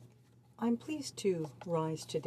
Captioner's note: speaking French